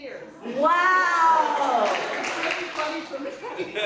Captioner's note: audience applauds